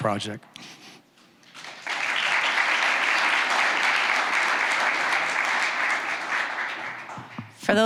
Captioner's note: applause